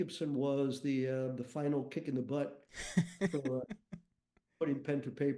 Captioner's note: chuckles